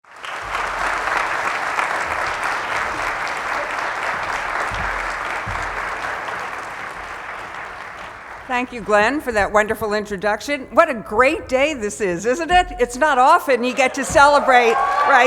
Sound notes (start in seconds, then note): 0.0 applause; 13.7 applause